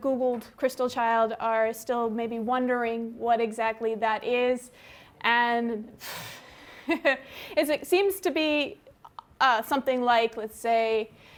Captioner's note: laughter